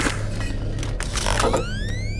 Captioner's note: gun firing; beeping; ominous music